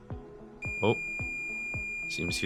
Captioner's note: long beep